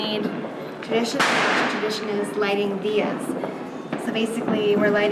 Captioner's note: explosion